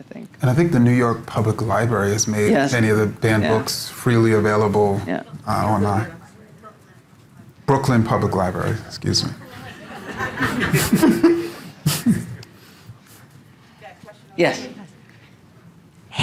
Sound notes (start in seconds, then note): 9.4 audience laughing